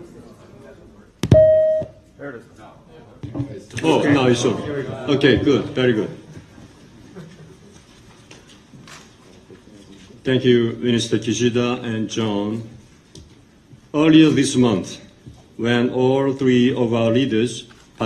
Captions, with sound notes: (beep) - Oh, now it's on. Okay, good, very good. Thank you Minister Kishida and John. Earlier this month, when all three of our leaders